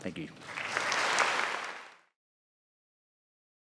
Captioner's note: audience applauds